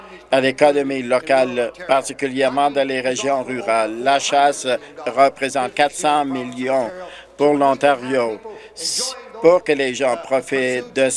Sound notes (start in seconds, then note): none